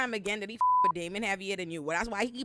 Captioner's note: beep